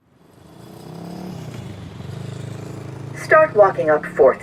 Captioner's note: traffic whirring